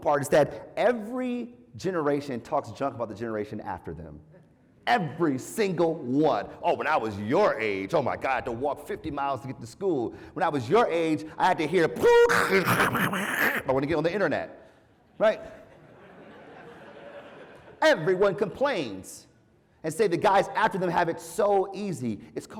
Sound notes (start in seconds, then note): 15.5 laugh